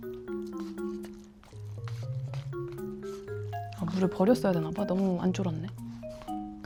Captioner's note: sniff sniff